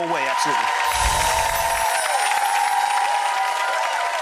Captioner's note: crowd cheering